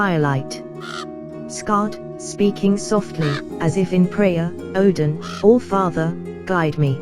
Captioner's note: speaking softly, as if in prayer